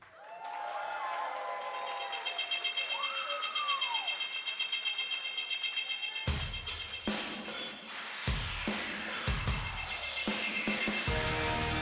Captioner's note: cheers and applause